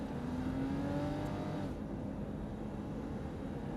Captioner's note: car revving